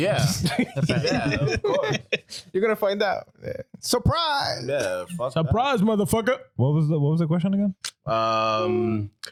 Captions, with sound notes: Yeah. (Laughing) You're gonna find out. Surprise. Yeah, fuck that. Surprise, motherfucker. What was the question again?